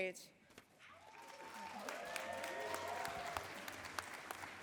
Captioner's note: cheering and applause